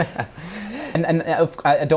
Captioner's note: dramatic laughs